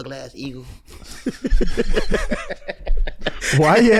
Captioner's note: trio wheezing